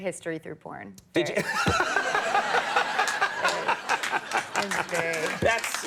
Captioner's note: audience laughing